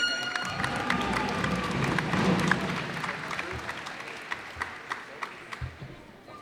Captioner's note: cheers and applause